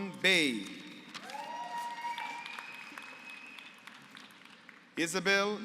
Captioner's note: applause